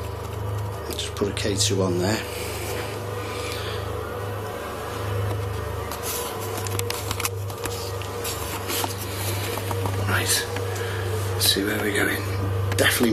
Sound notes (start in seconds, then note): none